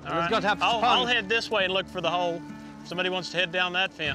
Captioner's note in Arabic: الثرثرة